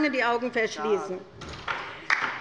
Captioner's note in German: Beifall bei der LINKEN